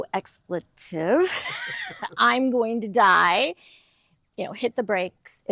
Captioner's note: laughing